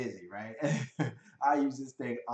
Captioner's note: laughs